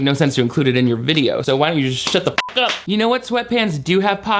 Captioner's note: beep